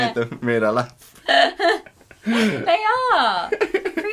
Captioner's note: laughter